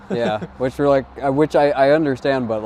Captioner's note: chuckling